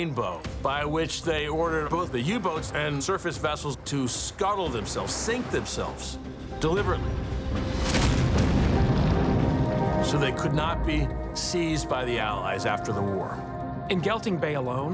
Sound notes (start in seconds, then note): 7.5 explosion booms